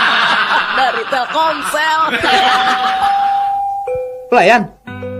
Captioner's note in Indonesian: tertawa